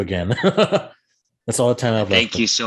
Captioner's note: laughs